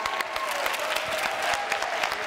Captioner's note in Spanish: Aplausos